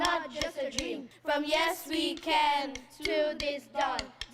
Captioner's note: chanting